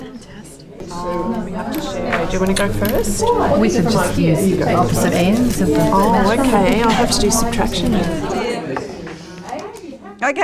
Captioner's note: audience chatter